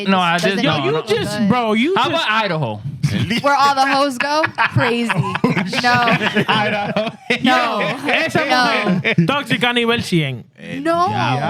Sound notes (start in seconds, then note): 10.2 speaking In Foreign Language